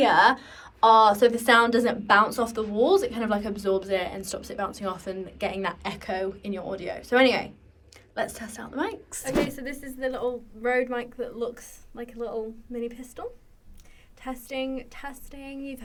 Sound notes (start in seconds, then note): none